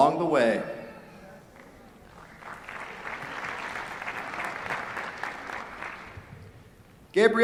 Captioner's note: applause